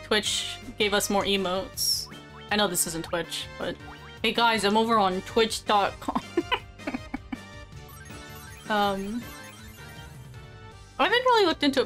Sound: evil giggle

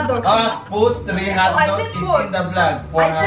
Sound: arguing

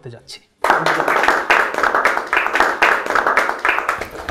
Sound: clap

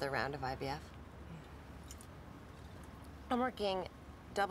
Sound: softly scoffs

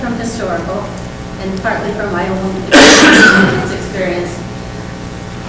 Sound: coughs

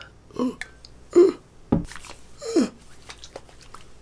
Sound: Hyram grunting

